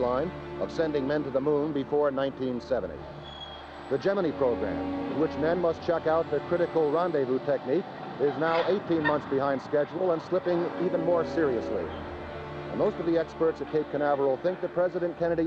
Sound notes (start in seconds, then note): none